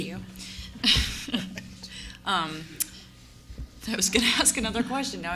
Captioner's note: both laugh